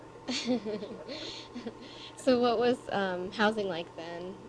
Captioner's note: both laugh